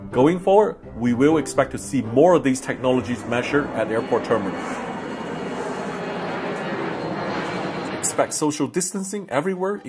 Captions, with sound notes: Going forward, we will expect to see more of these technologies measure at airport terminal. (plan engine revs) Expect social distancing everywhere,